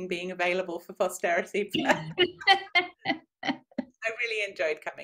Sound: both laugh

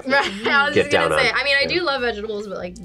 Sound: laughs

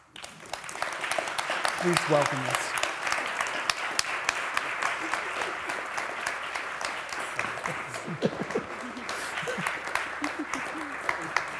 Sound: applause

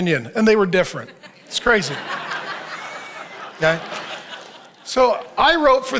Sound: audience laughs

